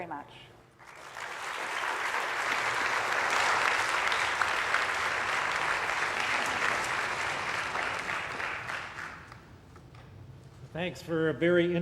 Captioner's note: applause